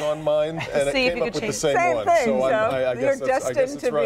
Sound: laughter

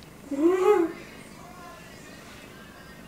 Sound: laughing

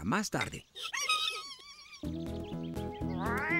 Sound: excited Squeaking

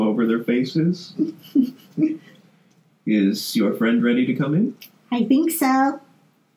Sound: giggles

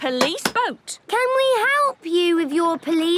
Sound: none

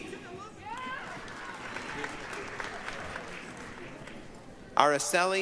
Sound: applause, cheering

